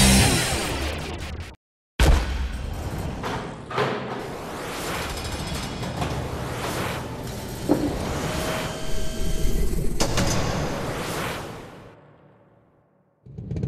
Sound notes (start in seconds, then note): 2.8 vaults clunking; 8.2 vault whirring; 10.0 vaults clunking